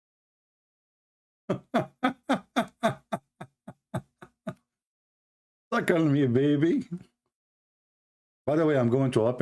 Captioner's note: Ketawa